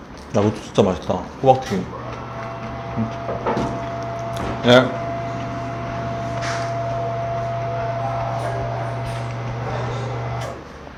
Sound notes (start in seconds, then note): 3.1 knock Knock